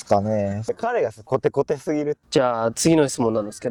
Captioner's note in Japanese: 関西弁